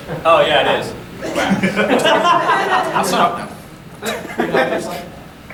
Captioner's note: audience laughing